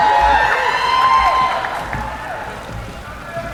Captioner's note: cheering